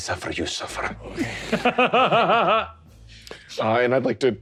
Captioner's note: laughing